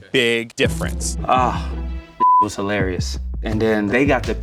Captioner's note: beep